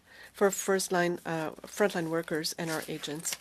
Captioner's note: speaking french